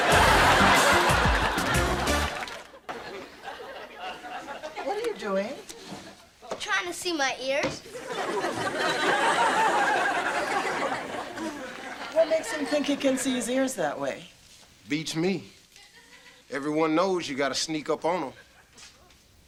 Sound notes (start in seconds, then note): 0.0 funky jazz beat; 7.9 audience laughter; 18.3 audience laughter